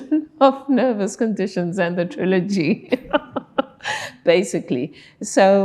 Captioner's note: laughing